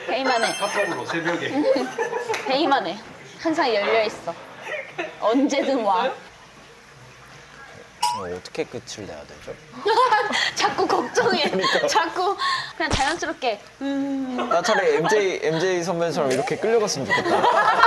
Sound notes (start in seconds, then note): 6.4 awkward pause